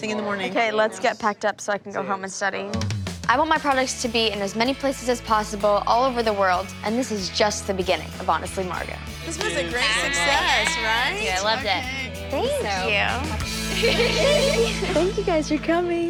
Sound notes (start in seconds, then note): 13.6 laughter